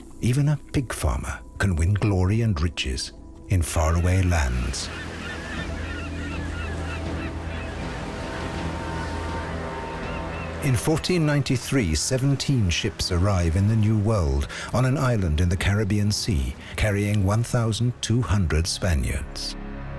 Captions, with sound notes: Even a pig farmer can win glory and riches in faraway lands. [birds calling] In 1493, 17 ships arrive in the New World, on an island in the Caribbean Sea, carrying 1,200 Spaniards.